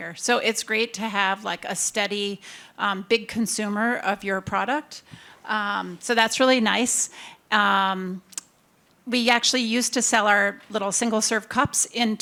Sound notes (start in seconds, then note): none